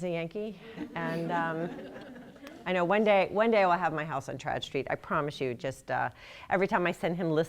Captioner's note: laughter